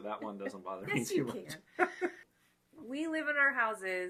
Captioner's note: laughing